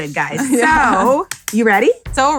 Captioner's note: laughs; claps